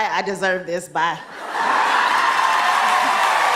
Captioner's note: cheers and applause